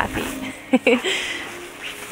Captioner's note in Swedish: Skratt